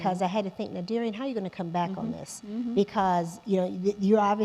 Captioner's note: gasping